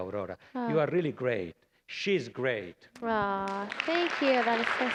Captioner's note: applause